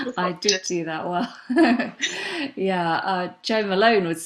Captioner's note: laughs